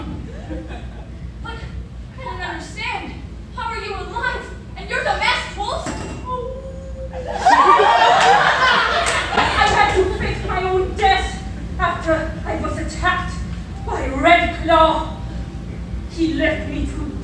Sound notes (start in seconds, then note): 6.8 howls sadly